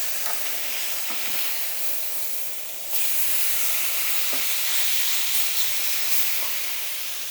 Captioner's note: sizzling